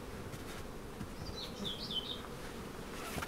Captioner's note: pied flycatcher singing in the background